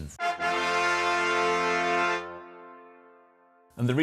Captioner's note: horn blows